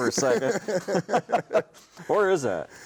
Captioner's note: both laughing